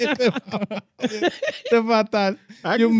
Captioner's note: laughing